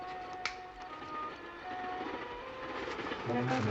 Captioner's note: train approaching